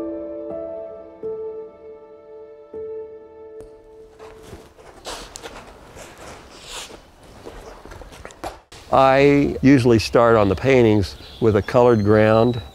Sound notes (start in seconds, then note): 0.0 soft piano music ends; 4.0 brush on canvas